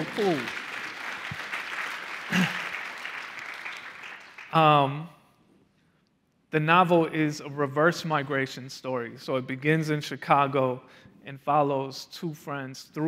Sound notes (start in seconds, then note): 2.9 applause